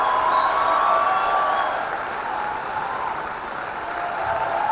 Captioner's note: audience cheering